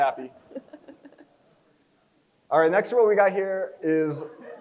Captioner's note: chuckles